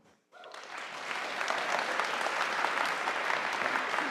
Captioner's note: audience applauding